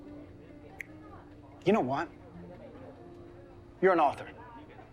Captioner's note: snaps fingers